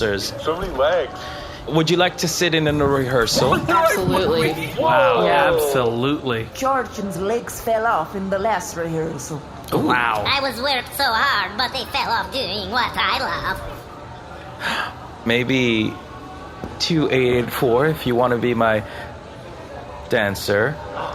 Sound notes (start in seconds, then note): 4.2 sullen